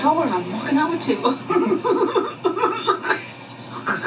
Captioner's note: laughs